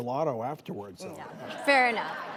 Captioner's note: audience laughs